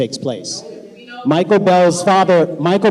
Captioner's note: shouting